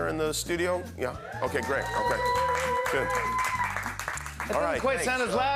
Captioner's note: cheers and applause